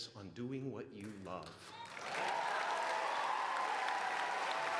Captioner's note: applauding